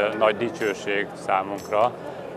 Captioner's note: Arabic